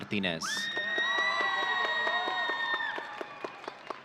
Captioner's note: audience cheering